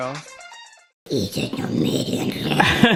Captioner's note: growling